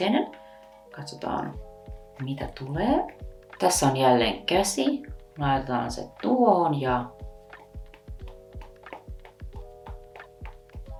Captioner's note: pat pat pat